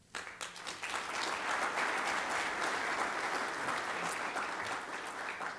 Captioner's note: applause